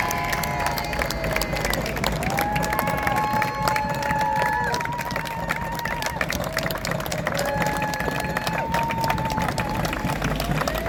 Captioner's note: cheering and clapping